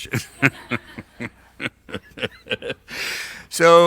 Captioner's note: laughs